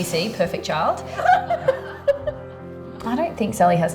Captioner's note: laughing